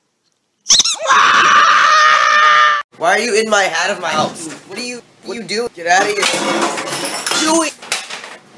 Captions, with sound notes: [squeak] [screams] Why are you in my hou— Get out of my house! What are you— What are you do— Get out of here! [crashing noise] —doing?!